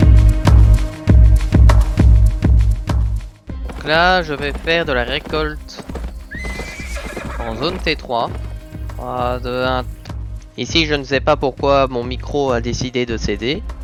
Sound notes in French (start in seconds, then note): 8.0 Voix off